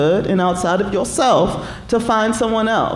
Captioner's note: none